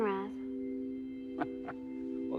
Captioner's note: chuckling